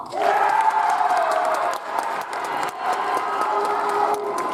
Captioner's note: audience applauds